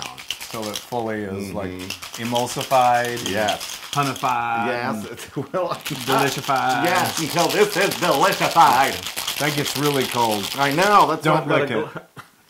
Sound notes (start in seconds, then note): 4.5 laugh